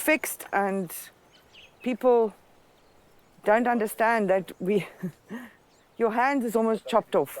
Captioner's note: laughs